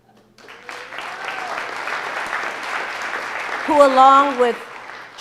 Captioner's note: audience applauding